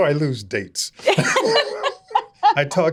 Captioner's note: both laughing